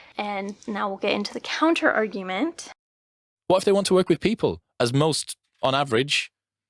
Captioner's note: podcast plays